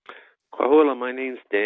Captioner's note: native Language Spoke